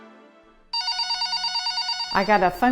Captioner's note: phone rings